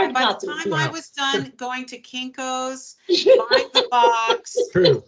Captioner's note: chuckling; laughing